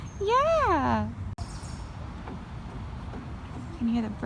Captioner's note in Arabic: زقزقة العصافير